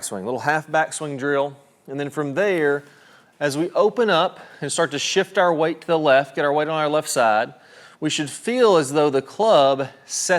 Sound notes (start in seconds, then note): none